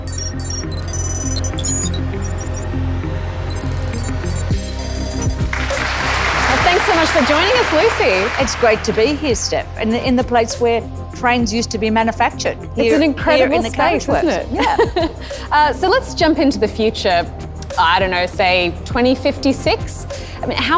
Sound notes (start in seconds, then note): 0.0 electronic music; 5.3 applause